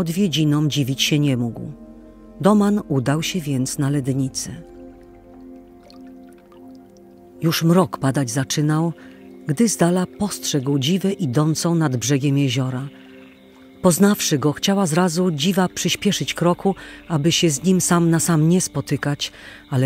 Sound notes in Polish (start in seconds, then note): 4.3 odgłos pluszczącej wody